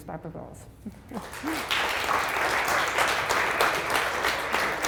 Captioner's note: applause